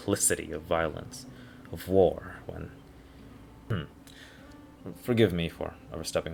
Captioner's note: ahem